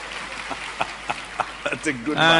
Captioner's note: applause